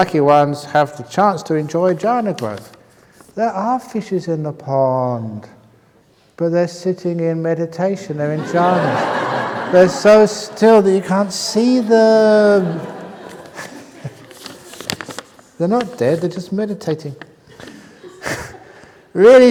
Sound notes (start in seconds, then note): 8.3 laughter; 18.5 chuckles